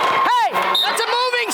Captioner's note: whistle blowing